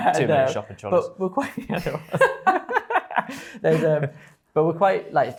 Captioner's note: laughs